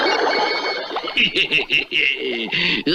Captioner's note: Simon Bar Sinister Laughs